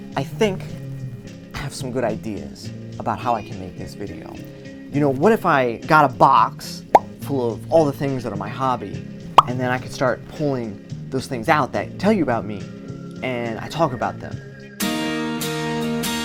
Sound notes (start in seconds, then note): 6.9 pop; 9.4 pop